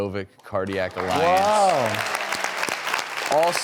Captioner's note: applause